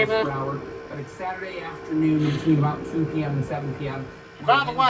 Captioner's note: TV still plays in background